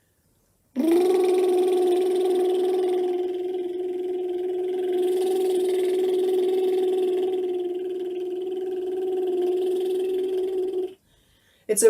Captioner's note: lip trills